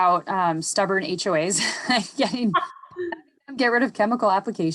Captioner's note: chuckles